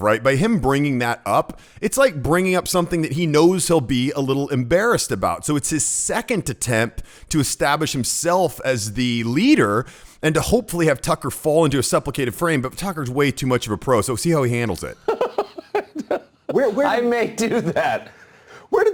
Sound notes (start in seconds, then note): 14.9 Tucker laughs